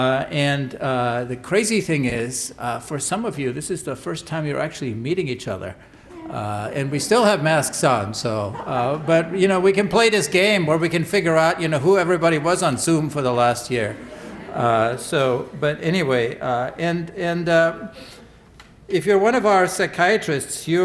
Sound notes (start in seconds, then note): 13.7 laughter